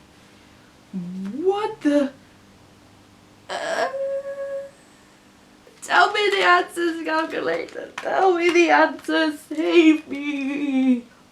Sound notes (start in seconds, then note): 3.5 whining like a baby